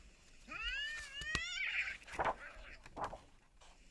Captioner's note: cats fighting